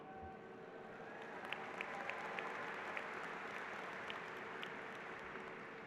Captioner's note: applause